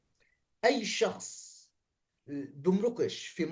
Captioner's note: speaking arabic